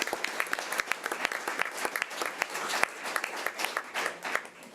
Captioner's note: audience applause